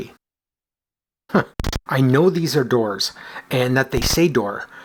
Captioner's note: chuckles